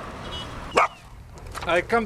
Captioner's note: dog barking